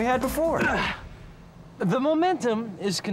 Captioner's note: grunting